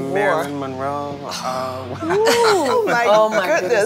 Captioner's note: laughter